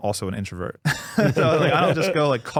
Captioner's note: laughing